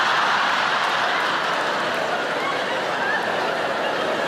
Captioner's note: audience laughing